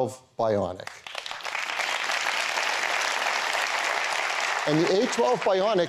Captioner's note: applause